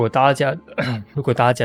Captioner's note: cough